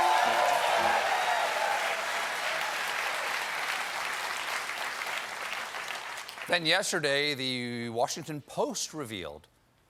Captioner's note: applause